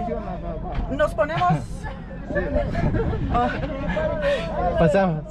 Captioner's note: nervous laughter